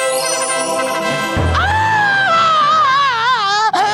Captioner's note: screaming